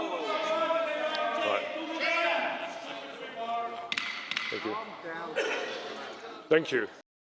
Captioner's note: shouting